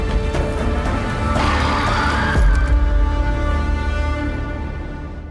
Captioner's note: clicker screeching